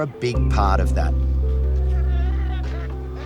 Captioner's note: chickens cluck